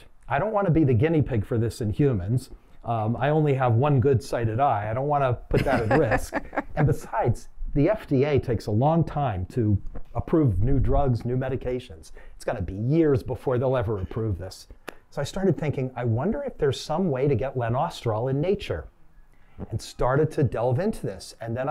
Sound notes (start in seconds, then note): 5.5 laughter